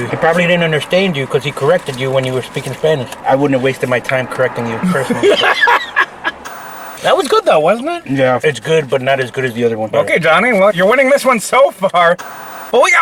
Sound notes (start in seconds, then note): 4.7 laughing